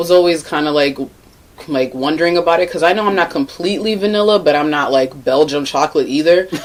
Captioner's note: laughing